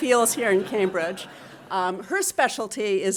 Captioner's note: audience laughing